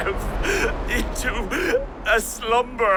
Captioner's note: sobbing